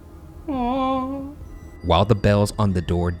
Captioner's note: whimpers